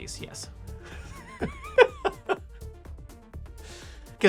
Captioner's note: laughing